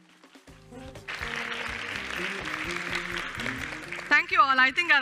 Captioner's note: applause